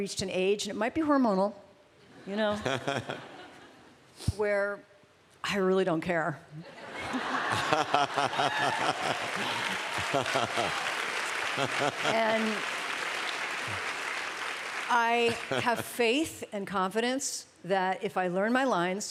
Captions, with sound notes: an age-- and it might be hormonal-- where I really don't care. [laughter] And I have faith and confidence that if I learn my lines